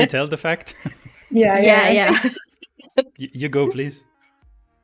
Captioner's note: all laugh